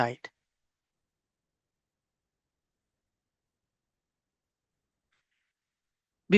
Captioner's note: silence